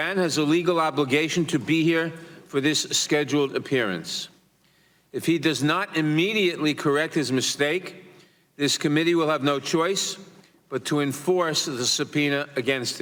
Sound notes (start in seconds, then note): none